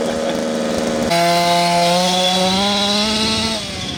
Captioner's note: laughs; engine roaring